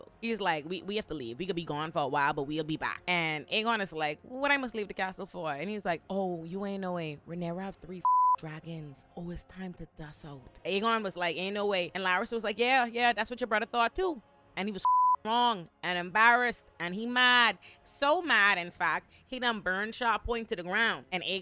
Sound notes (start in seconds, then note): 8.0 beep; 14.8 beep